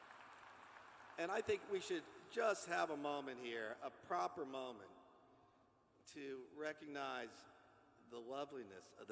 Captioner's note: applause